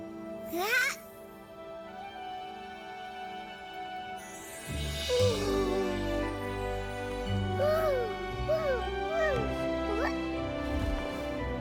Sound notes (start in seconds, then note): 0.5 excited burbling; 4.7 cooing; 8.4 cooing